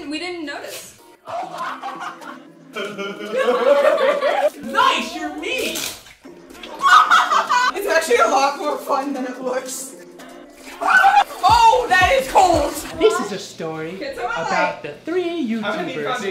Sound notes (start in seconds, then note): 3.0 laughing; 6.6 laughing